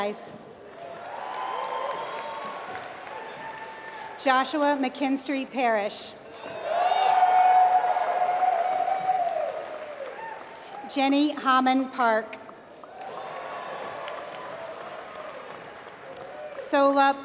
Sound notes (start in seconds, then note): 0.6 applause; 6.3 applause; 12.7 applause